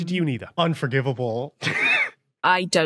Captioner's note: wheezes